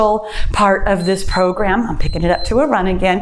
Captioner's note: timer beeps